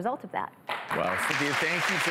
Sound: applause

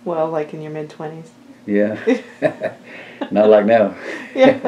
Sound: laughter

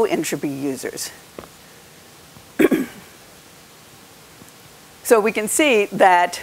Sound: cough

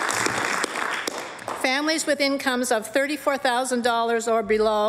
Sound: applause

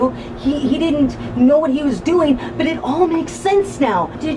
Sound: Cassie gasps

